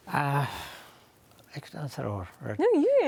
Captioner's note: sighs; speaking in foreign language